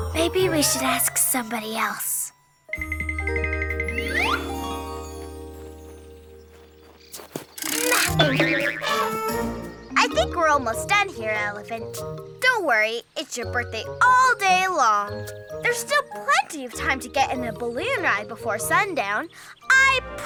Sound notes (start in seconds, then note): 3.1 playful music; 7.6 elephant trumpets; 7.8 crank rattles